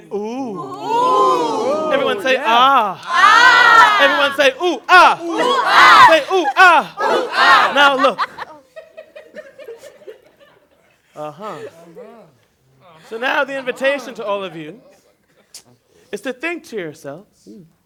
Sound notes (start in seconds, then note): 7.5 laughter